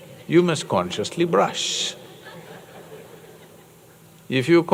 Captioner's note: laughter